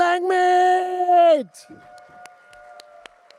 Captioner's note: applause